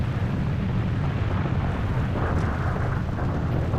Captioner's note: rumbling, cracking